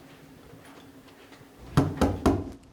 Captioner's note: knocks on door